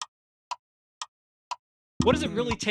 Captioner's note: clock Ticking